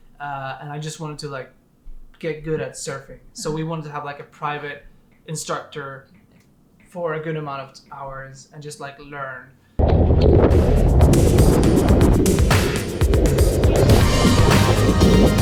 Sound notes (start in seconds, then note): 9.9 water splashing; 12.0 bright upbeat music